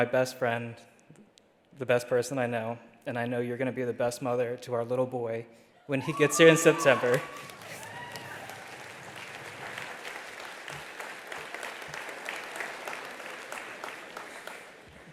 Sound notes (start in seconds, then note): 6.5 attendees cheering; 8.1 attendees applauding